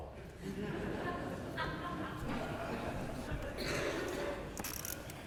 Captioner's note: laughter